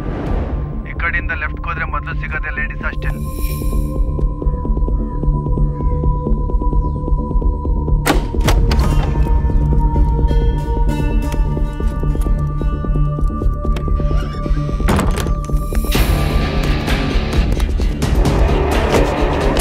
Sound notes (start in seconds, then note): 8.1 door opens; 13.9 door closes